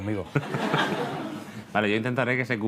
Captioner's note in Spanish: Risas